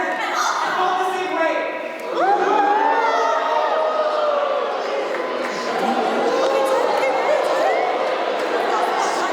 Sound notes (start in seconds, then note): 2.2 applause